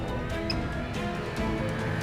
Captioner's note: beeps